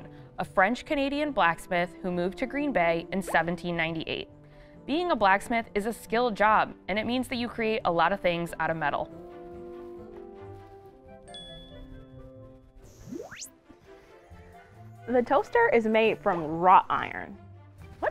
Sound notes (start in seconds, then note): 11.3 ding